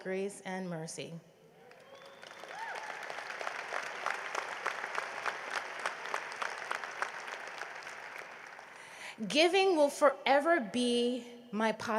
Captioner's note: cheering and applause